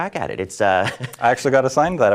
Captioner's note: laughs